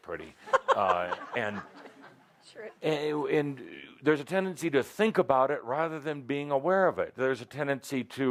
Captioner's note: laughter